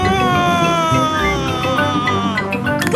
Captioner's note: screaming